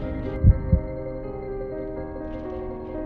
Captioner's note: heart beating